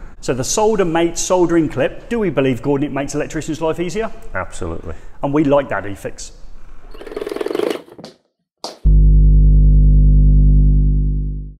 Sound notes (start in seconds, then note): 6.9 saw whirring; 8.8 bass hum